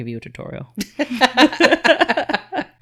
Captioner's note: both laugh